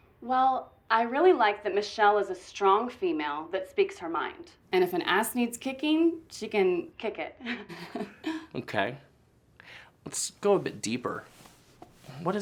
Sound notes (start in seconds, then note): 8.2 laughs